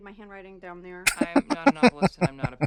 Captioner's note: laughing